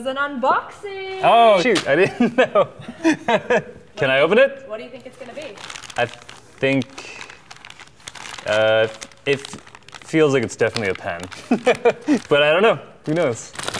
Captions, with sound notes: Oh shoot I didn't know. (laughing) Can I open it? I think it feels like it's definitely a pen, but I don't know, who knows?